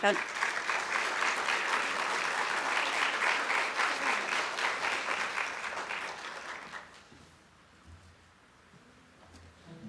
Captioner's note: applause